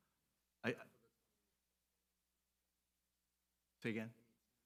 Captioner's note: audio cuts out